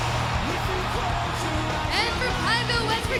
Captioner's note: crowd cheering